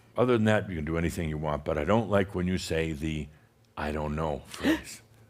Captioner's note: gasps